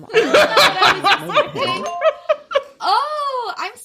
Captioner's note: bingbong